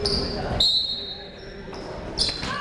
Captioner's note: whistle tweeting; people shouting in the crowd